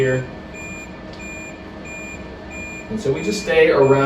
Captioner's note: machine beeping